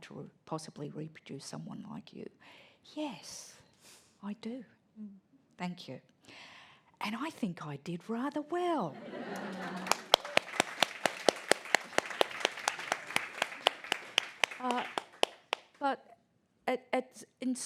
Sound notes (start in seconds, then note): 9.2 applause